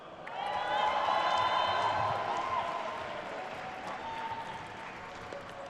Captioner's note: attendees cheering and applauding